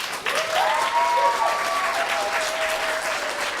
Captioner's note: applause